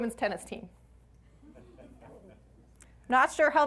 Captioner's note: audience laughs